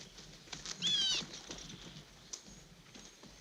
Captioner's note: bird calling